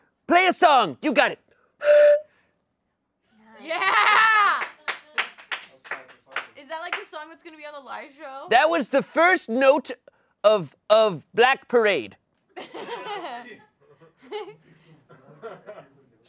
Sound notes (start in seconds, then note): 1.8 blowing into flute; 4.0 audience cheering; 12.6 audience laughing